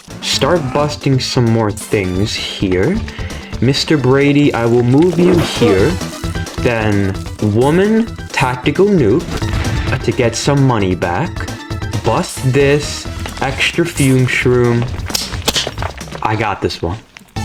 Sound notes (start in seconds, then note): 15.0 presses hands together for noise